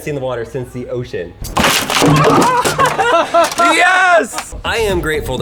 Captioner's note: laughing